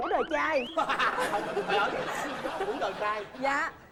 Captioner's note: laughing